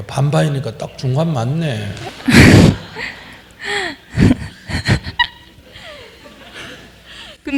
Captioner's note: questioner Laughter